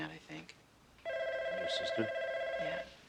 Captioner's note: phone ringing